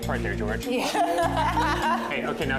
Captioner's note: laughter